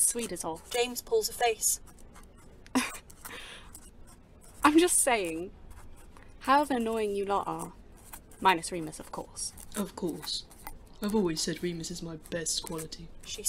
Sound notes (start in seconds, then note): 2.7 Lily laughs